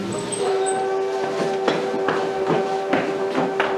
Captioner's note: steam Whistle